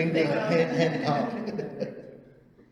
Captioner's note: all laugh